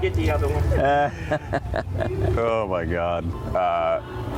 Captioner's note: laughing